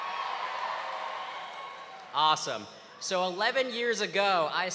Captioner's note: applause